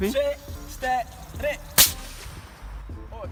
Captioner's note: pff